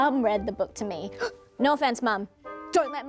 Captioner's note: gasps